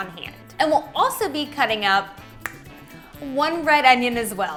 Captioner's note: taps fingers